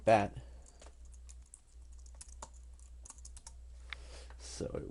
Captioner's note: typing